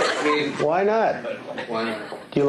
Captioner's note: laughter